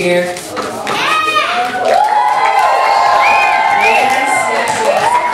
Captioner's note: audience cheering